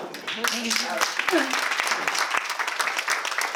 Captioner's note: audience applause